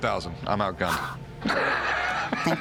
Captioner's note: laughs